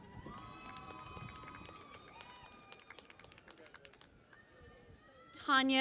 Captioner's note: cheering and Applause